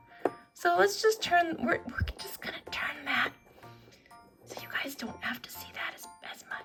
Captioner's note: whispers